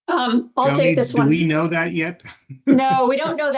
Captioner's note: laughs